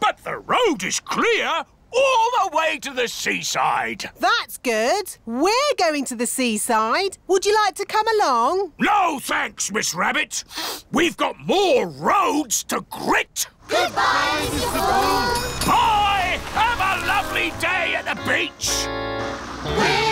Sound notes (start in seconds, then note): 10.5 sniffs